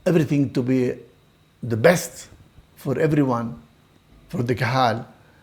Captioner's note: Hebrew